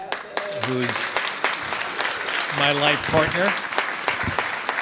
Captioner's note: audience applauds